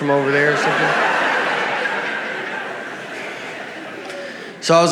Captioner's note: audience laughs